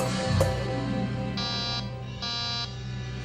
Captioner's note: door Buzzer